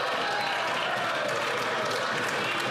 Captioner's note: some Applause